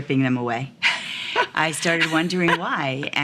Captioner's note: woman laughs